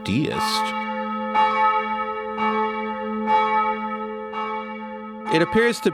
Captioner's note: church bells